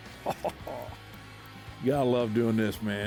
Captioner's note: chuckles